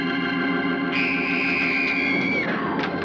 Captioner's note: screaming